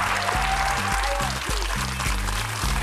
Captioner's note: cheers and applause